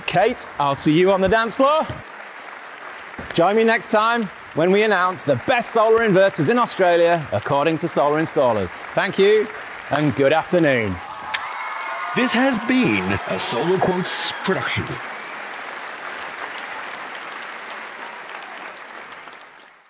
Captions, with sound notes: Kate, I'll see you on the dance floor. Join me next time when we announce the best solar inverters in Australia according to solar installers. Thank you and good afternoon. (audience cheering and applauding) This has been a Solarquotes production.